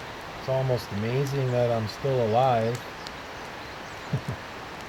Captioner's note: laughter